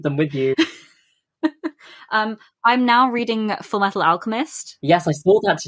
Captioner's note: laughs